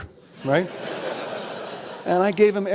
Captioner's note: audience laughs